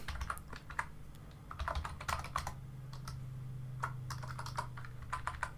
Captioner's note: keyboard typing